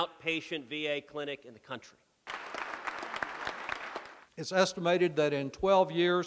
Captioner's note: applause